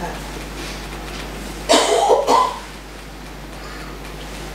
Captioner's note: fingers tapping